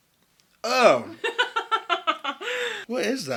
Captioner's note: laughs